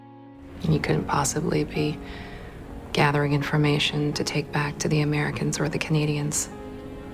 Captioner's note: voiceover